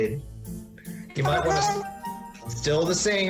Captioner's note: high-pitched babble